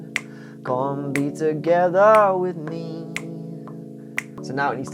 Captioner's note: finger clicks